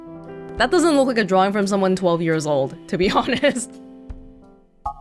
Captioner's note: chuckles